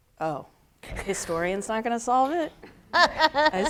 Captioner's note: laughs